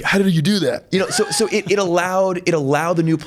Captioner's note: laughs